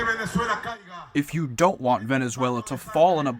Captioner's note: through translator